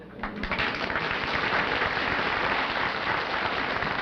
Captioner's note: applause